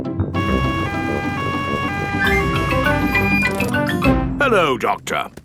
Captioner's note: siren wailing